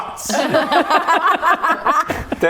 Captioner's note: mature giggles